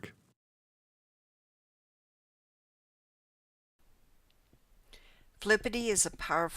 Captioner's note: no audio